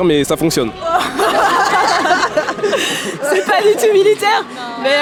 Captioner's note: laughs